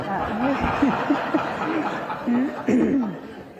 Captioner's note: laughter